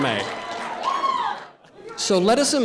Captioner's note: protestors shouting